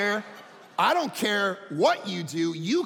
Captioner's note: audience laughing